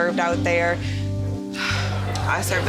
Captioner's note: sighs